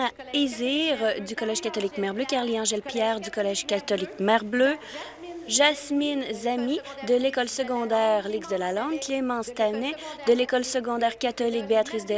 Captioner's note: speaking in French